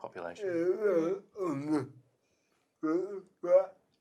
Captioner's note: murmurs